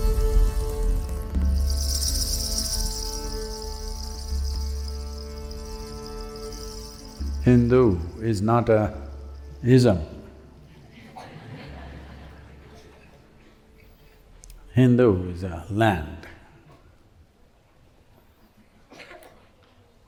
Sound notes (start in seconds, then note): 10.7 laughter